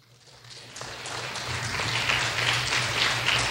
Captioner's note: clapping